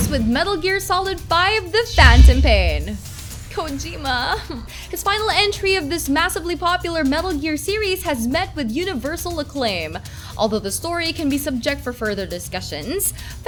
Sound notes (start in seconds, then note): 4.2 sniff